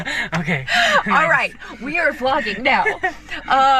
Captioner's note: laughs